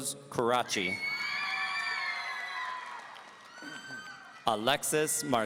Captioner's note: audience cheering